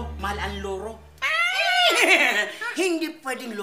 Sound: cawing; neighing

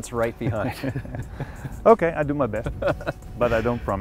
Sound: laughs

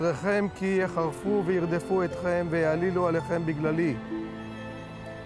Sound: speaking hebrew

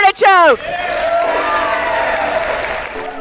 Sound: crowd cheers; uplifting music

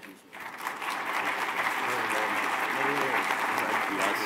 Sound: applause

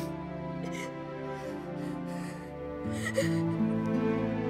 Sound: sobbing

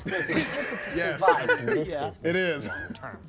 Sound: laughter

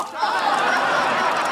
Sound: laughing

